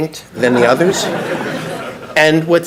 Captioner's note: audience laughs